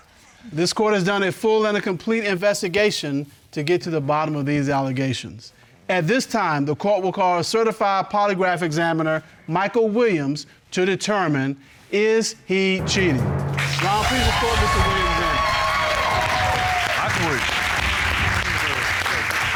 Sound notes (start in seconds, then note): 12.8 dramatic music playing; 15.6 applause